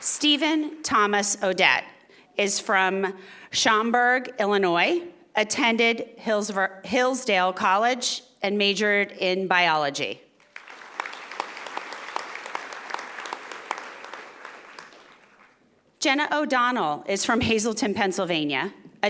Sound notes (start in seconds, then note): 10.4 audience applauding